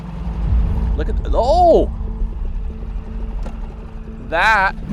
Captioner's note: motor boat whirring; exclaiming